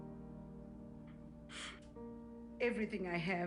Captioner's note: inhales